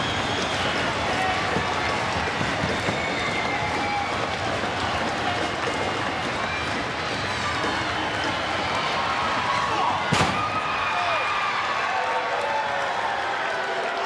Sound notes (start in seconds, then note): 10.2 body thuds; 11.0 crowd cheering